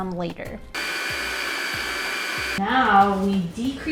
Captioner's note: mixer whirring